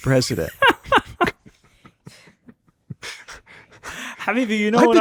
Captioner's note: Zohran laughs